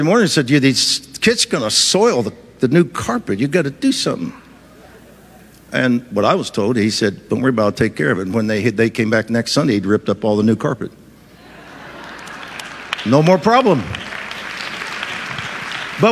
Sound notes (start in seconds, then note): 11.4 audience laughs and applauds